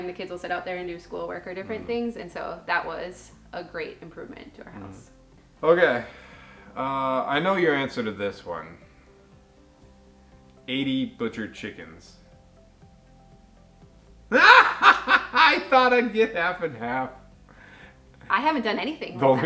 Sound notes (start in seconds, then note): 14.3 laughs loudly